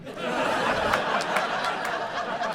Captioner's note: audience laughing